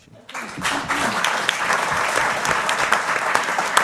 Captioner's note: applause